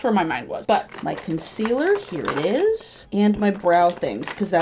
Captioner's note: rummaging